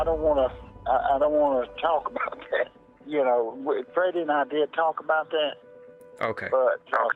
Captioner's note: laughs